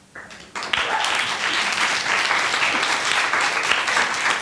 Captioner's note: attendees applauding